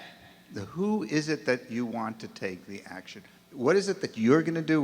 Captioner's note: voiceover